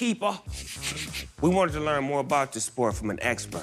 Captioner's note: British accent; normal voice